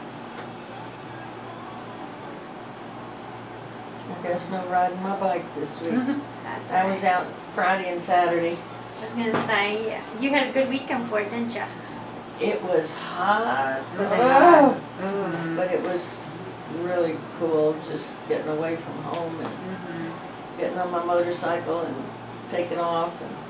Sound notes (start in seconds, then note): 5.8 giggles; 14.1 groans